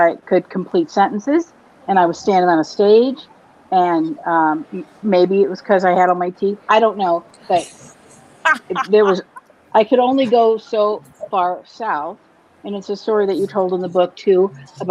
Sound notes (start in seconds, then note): 8.4 laughs